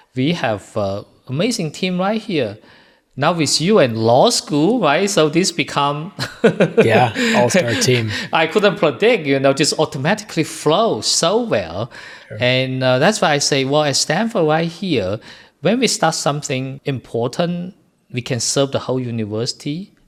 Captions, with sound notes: We have an amazing team right here. Now with you in the law school, right? So this become ... [laugh] Yeah, all-star team. I couldn't predict it just automatically flow so well, and that's why I say, well, at Stanford right here, when we start something important, we can serve the whole university.